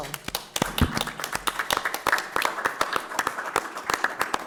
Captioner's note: audience applauding